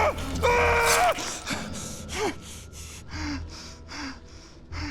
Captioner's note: yelling; panting